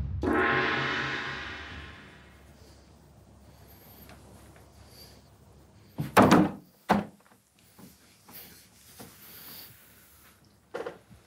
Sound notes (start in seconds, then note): 0.0 gong banging; 6.0 hands smacking table